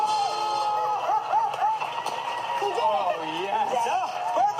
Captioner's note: applauding